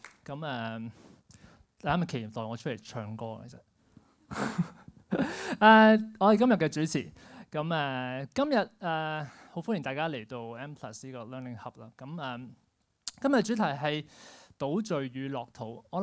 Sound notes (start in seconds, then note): 4.3 laughs